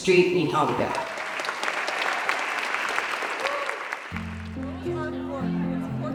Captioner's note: applause